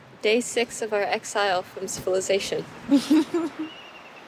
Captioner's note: laughs